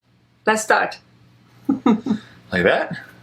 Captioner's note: laughs